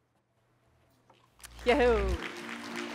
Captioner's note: applause